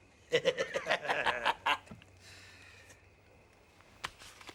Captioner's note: men laughing